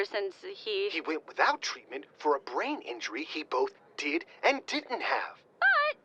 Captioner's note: whispering to himself